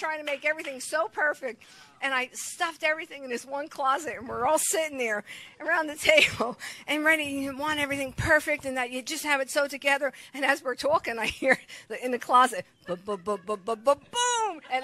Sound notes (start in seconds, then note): 6.3 chuckles; 11.5 chuckles; 12.9 congregation laughs